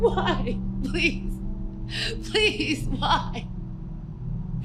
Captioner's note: sobbing and pleading